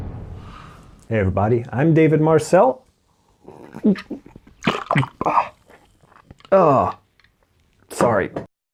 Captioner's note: urgh!